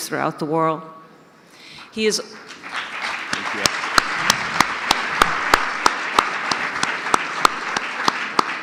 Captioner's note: audience applause